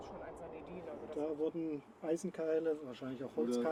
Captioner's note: speaking German